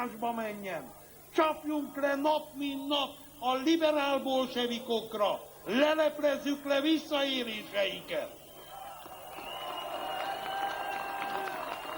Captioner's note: applause